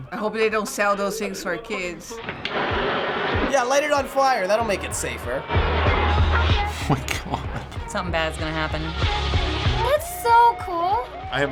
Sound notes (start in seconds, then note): 6.6 chuckles